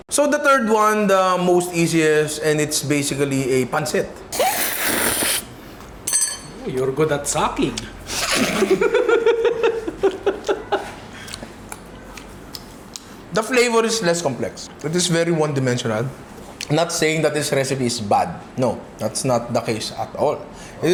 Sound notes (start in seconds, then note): 4.3 slurps; 8.1 laughs